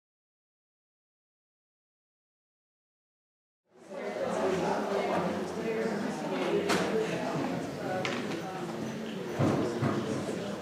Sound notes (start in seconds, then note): 3.7 audience chattering